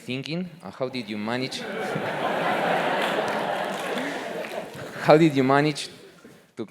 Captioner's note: laugh; applause